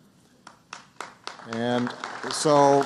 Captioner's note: applause